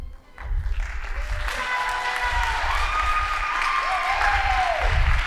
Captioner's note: audience applauding